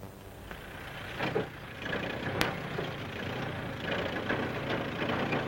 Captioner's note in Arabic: هدير الجرار